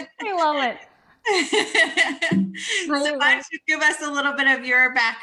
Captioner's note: laughs